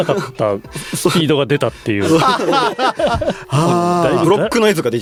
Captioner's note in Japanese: 笑い